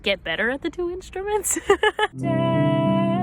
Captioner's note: giggling